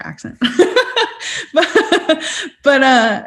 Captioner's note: laughs